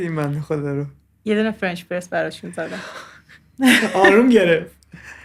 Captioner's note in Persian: خنده